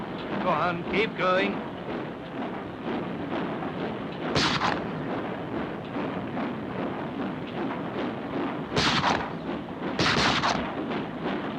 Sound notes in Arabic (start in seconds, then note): 0.0 صوت محرك القطار; 2.8 صوت محرك القطار; 4.3 طلق ناري; 5.7 صوت محرك القطار; 9.9 طلقات نارية